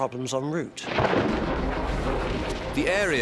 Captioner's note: lightning crackling